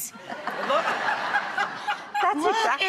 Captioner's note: audience laughing